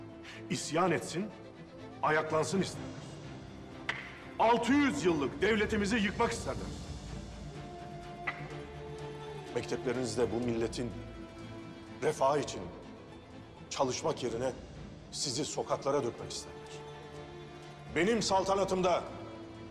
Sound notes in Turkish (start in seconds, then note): 8.2 Yere baston vurma sesi